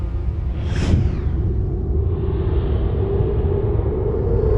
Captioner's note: ominous music; graphic whooshing